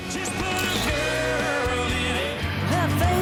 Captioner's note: camera clicking; upbeat music